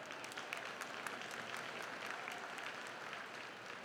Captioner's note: crowd clapping